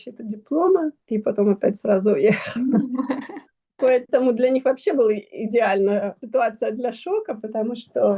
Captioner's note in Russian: смех